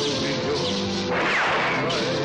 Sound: gunshot

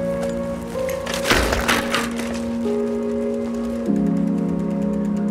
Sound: bicycle thuds; slow piano music

